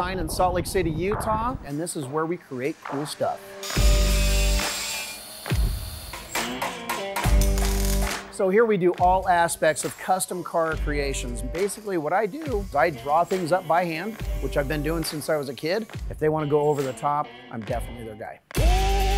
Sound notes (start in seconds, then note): 3.8 electro-rock music; 6.3 hammer banging; 7.3 welding machine zapping